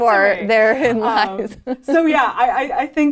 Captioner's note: laughs